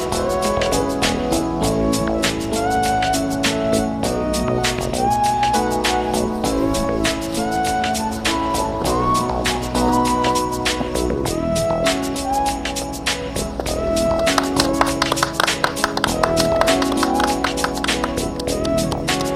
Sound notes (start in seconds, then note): 14.2 clapping